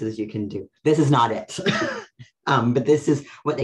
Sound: laughs

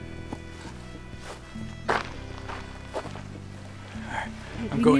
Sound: footsteps crunching

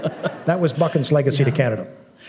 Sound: laughter

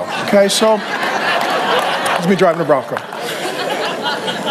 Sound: congregation laughs

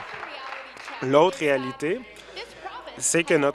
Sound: applause

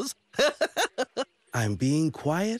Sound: laughing

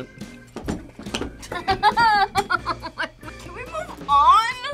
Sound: whimpers

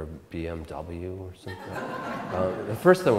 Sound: audience Laughter

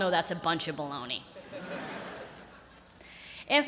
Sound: laughter

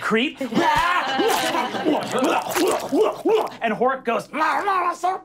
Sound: screaming; chewing

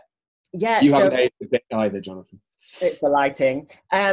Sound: voice muffled

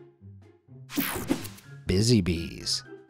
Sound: image whooshing

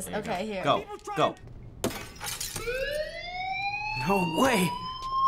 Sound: glass shattering; fire bell wailing

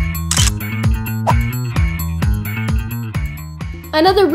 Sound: camera shutter clicks; whooshing

